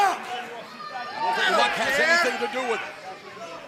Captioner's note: crowd cheering